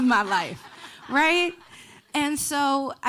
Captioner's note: audience laughing